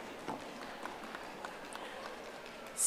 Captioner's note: audience applauding